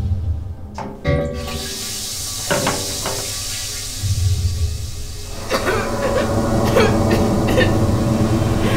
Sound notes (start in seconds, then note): 1.6 hissing; 5.4 coughing